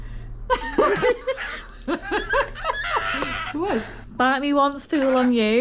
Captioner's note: laughter